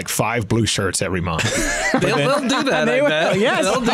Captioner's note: laughs